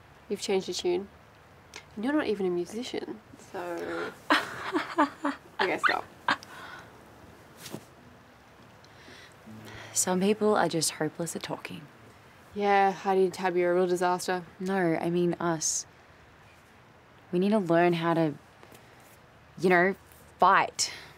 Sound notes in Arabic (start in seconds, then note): 4.3 ضحكة مزيفة